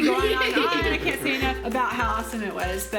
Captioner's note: laughter